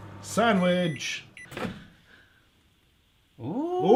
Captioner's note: microwave beeping